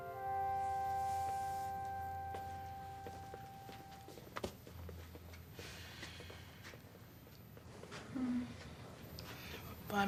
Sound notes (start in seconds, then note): 5.6 Benji sighs